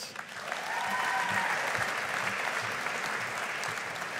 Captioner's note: audience applauding